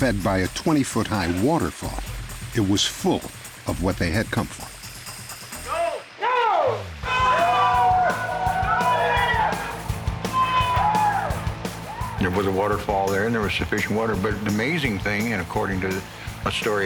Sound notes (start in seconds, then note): 7.0 cheering